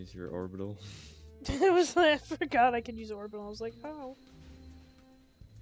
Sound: laughs

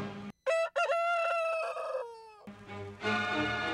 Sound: rooster crows

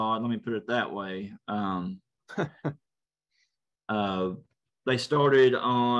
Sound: laugh

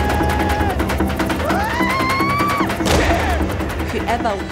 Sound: screaming

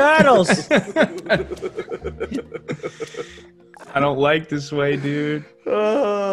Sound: laugh

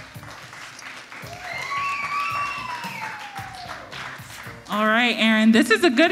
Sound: audience applauds

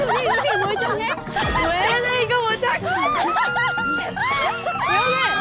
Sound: they burst out laughing at pumpkin

